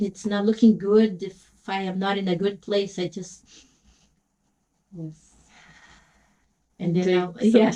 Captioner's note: breathing noise